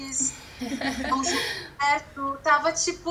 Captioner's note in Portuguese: risos